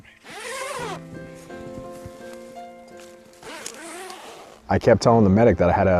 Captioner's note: zipper sound